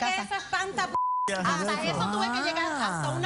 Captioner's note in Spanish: Bip